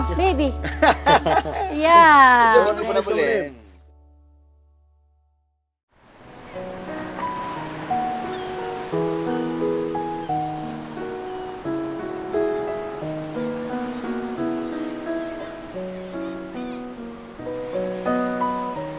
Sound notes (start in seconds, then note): 0.1 everyone laughing